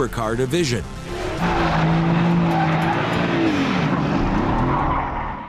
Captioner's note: car engine roars